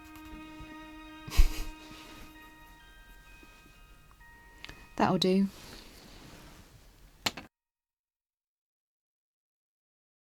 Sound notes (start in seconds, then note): 1.2 laughs under her breath; 7.2 pencil is put down on the desk